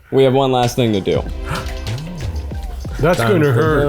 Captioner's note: logo rings